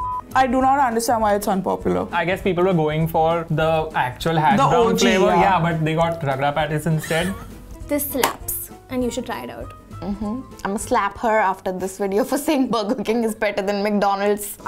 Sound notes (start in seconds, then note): 7.0 laughs